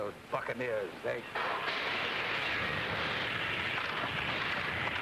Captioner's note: steam whooshes